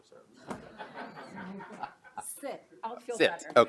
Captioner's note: laughing